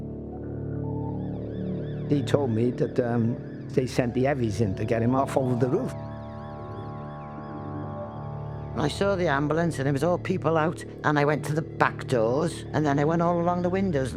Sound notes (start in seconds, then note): 6.9 siren wails